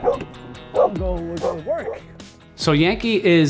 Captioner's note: bark! bark! bark!